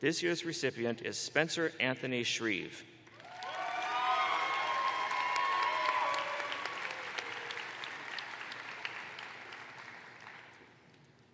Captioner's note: cheers and applause